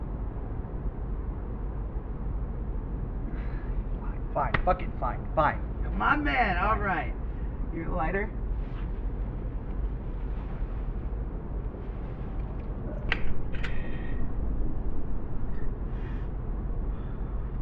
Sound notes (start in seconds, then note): 13.1 lighter clicks, flame strikes; 16.8 teddy inhales deeply